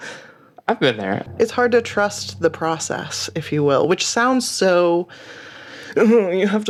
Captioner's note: in a snooty voice